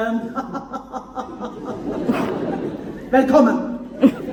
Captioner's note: laughs